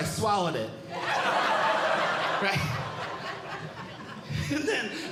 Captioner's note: audience Laughing